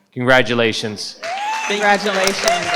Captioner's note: participants applaud